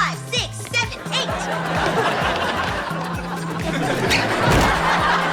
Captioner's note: audience laughter